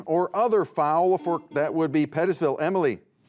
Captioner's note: buzzer beeps